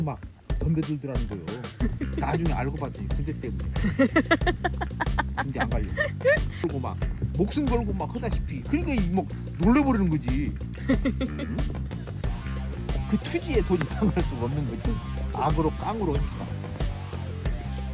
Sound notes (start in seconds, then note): 6.4 laughing; 9.8 laughing